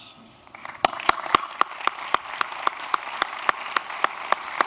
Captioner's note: applause